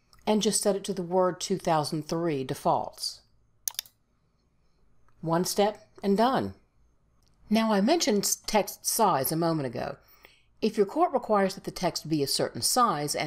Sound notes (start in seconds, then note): 3.6 mouse clicks